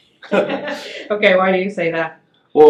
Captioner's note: laughing